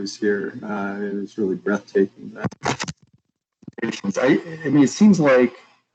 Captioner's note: audio static